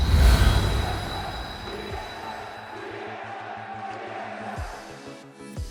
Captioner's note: audience chanting